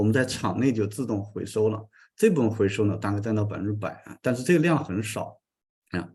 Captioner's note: continues to speak in Chinese